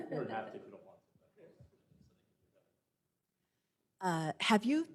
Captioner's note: laughter